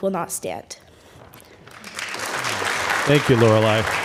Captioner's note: applause